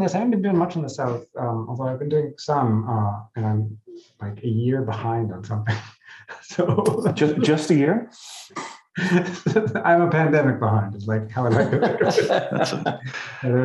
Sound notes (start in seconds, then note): 6.0 laughing; 12.0 laughing